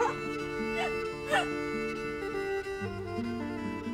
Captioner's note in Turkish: Gülüşüyorlar